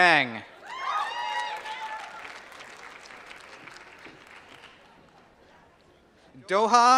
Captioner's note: applause